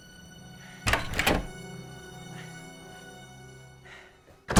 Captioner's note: door clacks